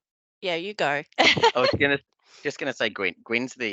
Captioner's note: laughs